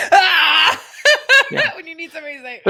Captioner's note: laughing